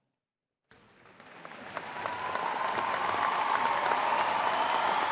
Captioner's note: crowd applauding